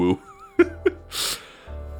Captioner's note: laughs